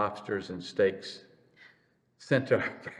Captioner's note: laughs